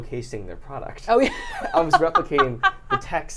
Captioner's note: laughing